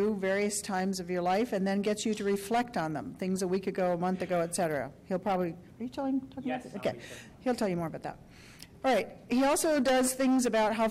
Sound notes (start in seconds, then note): 6.5 voiceover